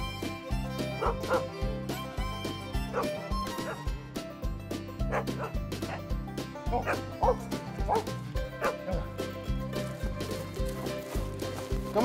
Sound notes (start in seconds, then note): 0.2 upbeat music; 2.5 Willamina barking; 5.0 upbeat music; 6.7 Willamina barking; 9.3 upbeat music